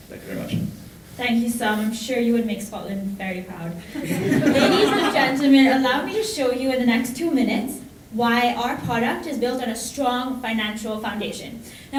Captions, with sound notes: Thank you very much. - Thank you, Sam, I'm sure you would make Scotland very proud. (audience laughing) Ladies and gentlemen, allow me to show you in the next two minutes why our product is built on a strong financial foundation.